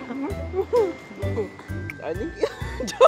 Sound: coos

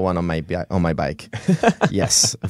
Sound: laughs

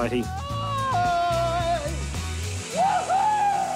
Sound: wails

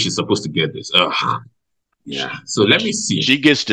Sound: groans

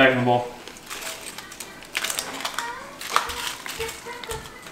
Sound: chips crunching

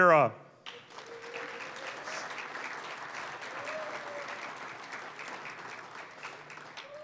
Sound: applause

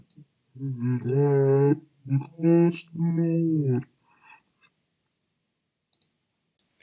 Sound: backwards audio file playback

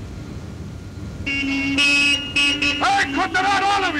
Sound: cars hooting

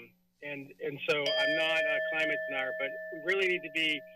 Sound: giggles; bell rings

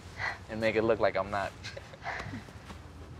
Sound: laughs

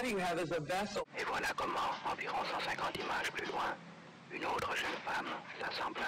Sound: narrates in foreign language

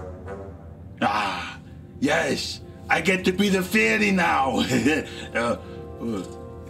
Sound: whimsical music; chuckles

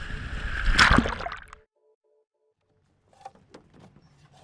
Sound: water splashes

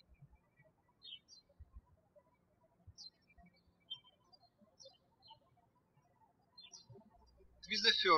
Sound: birds chirping

